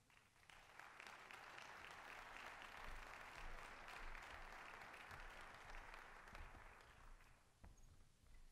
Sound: applause

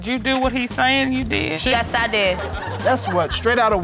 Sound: audience laughing

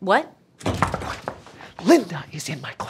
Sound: knocks on door

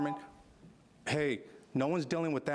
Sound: alarm beeping

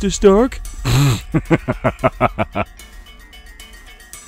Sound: Thanos laughing

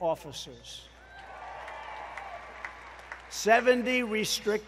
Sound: applause

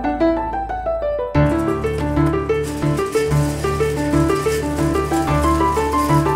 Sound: conveyor belt clattering

